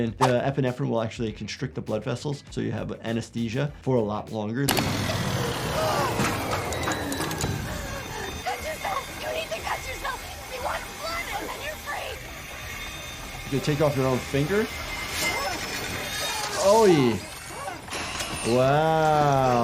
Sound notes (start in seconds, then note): 5.0 machine whirs